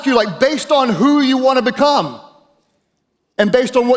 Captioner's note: none